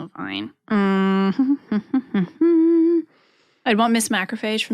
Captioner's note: Adelaide hums